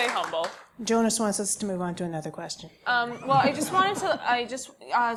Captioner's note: applause; laugh